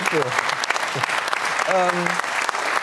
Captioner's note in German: Applaus